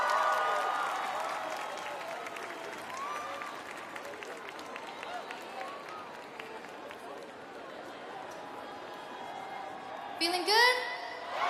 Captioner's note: crowd cheering